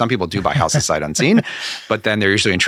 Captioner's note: laughing